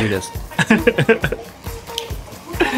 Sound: chuckles

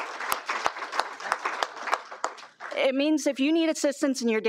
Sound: applause

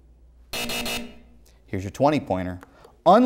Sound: buzzer sounds

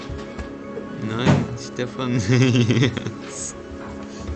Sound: laughter

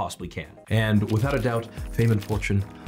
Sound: cameras click

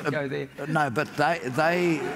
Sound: laughter

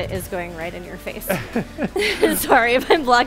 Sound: both laughs

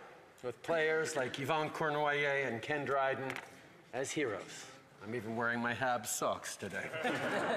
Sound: laughter

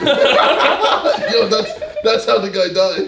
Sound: all laugh

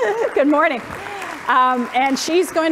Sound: applause

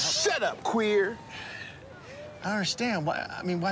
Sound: another Bisexual Sigh

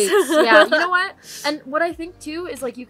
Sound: laughs

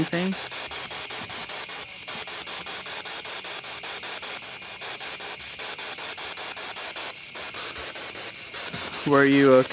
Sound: static continues

